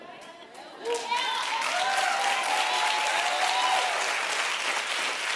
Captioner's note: audience cheers and applauds